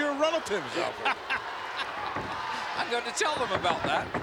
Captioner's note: laughs